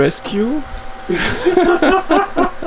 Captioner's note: laughter